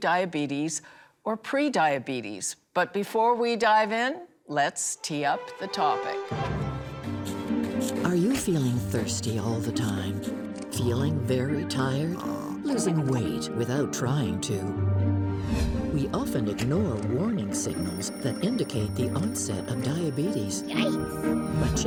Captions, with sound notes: But before we dive in, let's tee up the topic. - Are you feeling thirsty all the time? Feeling very tired? [person snoring] Losing weight without trying to? We often ignore warning signals that indicate the onset of diabetes. - Yikes! - But chances are you know someone with diabetes.